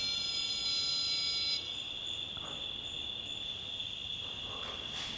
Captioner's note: crickets chirping